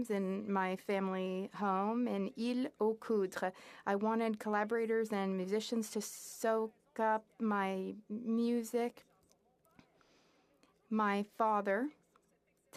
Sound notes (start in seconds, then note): 6.6 speaking French